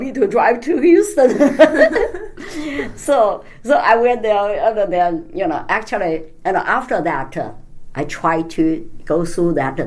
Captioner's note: all laugh